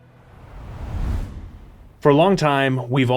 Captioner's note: logo whooshing